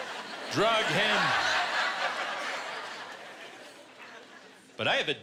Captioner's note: laughter